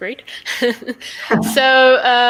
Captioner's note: laughter